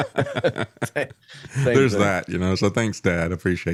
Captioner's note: laughs